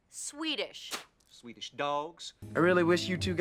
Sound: spits

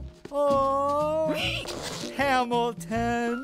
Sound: giggling

